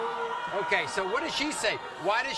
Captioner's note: audience jeering